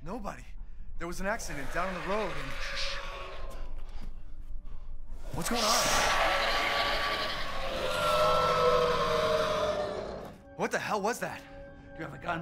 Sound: monster noises

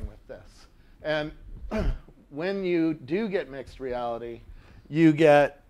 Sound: cough

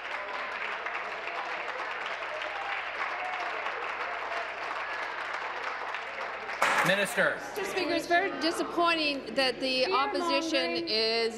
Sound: applause

